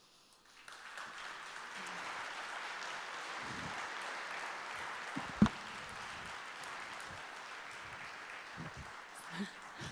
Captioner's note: applause